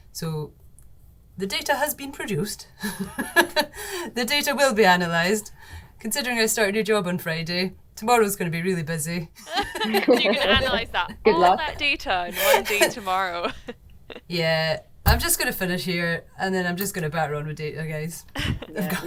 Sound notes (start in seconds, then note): 3.0 laughs; 9.4 doctors laughing